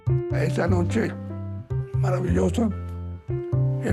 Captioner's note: speaking Spanish